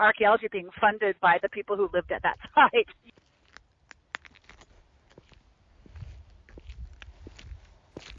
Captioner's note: footsteps